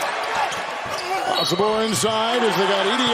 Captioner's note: whistle